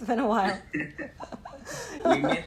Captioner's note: laughter